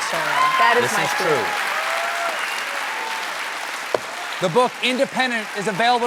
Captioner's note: cheers and applause